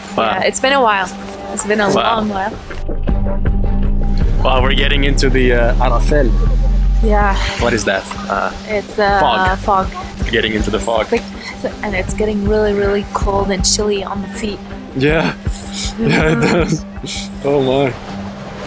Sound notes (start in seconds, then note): 5.9 speaking in Hebrew